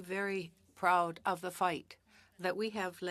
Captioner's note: speaking French